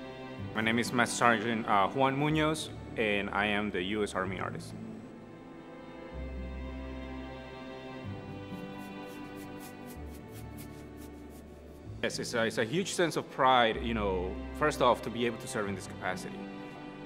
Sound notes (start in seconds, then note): 5.6 brush strokes on canvas; 5.6 soft music